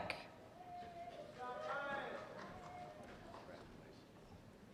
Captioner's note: cheers and applause